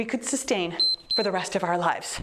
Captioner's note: timer beeps